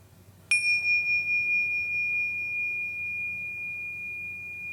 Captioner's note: chimes clanging